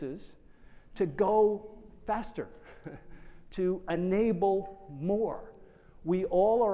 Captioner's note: chuckles